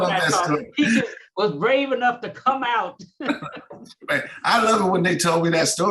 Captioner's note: laughs